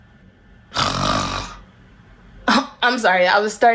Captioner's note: snores